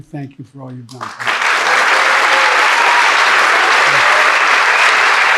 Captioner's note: audience clapping